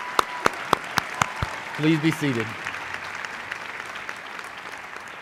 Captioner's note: applause